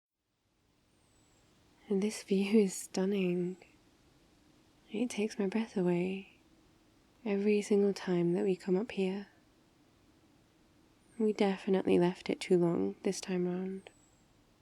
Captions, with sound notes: *outdoor ambience* this view is stunning it takes my breath away every single time that we come up here we definitely left it too long this time round